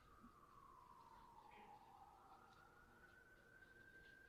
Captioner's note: sirens wailing